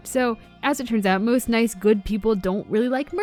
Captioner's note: none